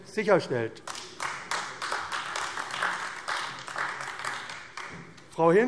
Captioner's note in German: Beifall AfD